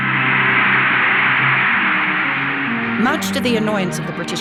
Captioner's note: audience applauds